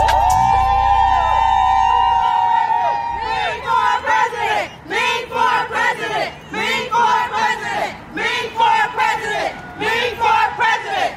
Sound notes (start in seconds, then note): 0.0 people cheering; 3.4 crowd chants